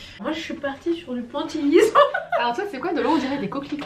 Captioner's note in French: rires